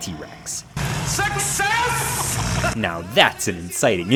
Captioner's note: Helga laughing